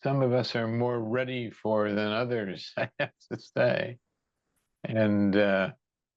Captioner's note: laughs